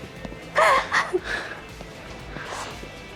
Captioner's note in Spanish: risas